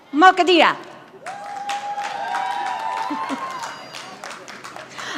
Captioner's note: audience applauding